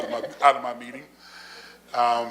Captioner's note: laughter